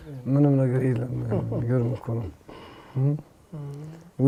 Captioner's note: shared laughter